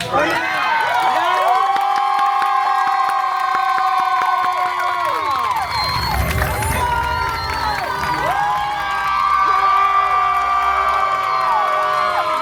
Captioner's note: guests cheering and applauding